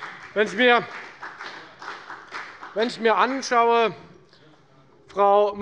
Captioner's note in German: Beifall bei der FDP